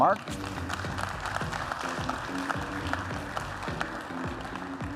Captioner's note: applause